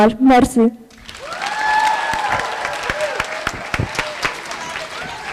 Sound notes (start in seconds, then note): 0.9 applause